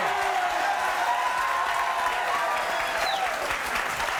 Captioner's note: audience cheers